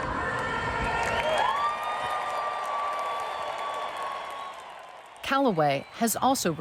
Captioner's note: crowd cheering happily